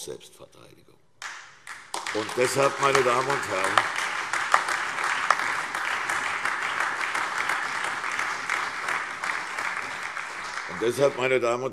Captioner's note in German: Beifall CDU, BÜNDNIS 90/DIE GRÜNEN, AfD und Freie Demokraten